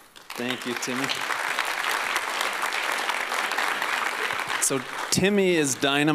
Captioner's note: applause